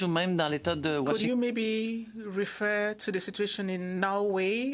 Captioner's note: speaking French